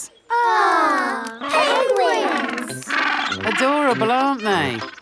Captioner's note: penguins chatter